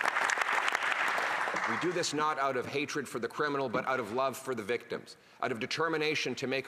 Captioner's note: some Applause